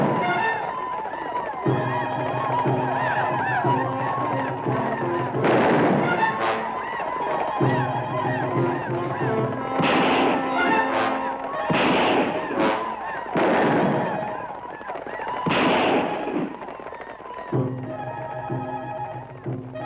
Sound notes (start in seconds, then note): 3.6 native Americans howl; 5.3 gun fires; 9.9 guns fire; 13.4 guns fire